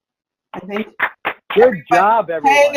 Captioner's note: clapping